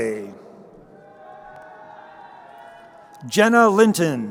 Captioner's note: crowd cheering